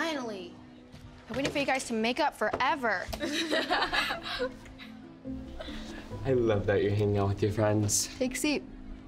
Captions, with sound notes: I waited for you guys to make up forever. ( girls laugh ) I love that you're hanging out with your friends. - Take a seat. - Yeah.